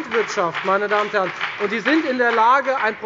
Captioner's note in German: Beifall bei der FDP